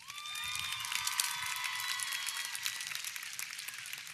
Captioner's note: audience cheering